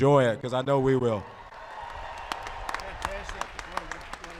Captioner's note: applause